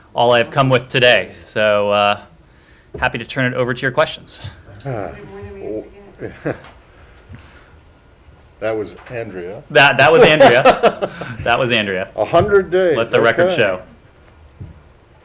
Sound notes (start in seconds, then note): 10.0 laughter